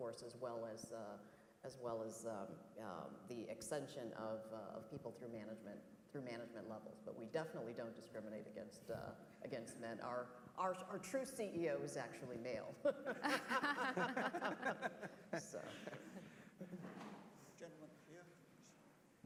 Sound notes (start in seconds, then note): 12.8 laugh